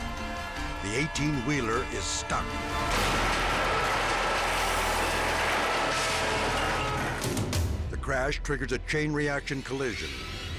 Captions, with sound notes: The 18-wheeler is stuck. (trailer crashing) The crash triggers a chain reaction collision.